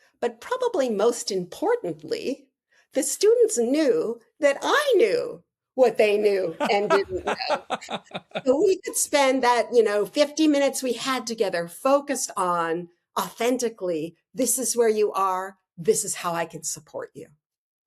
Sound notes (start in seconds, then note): 6.5 laughing